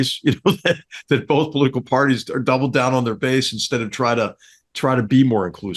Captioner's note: laugh